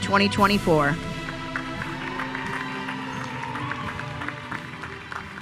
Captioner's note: all cheering